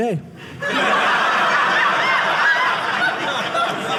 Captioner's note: audience laughing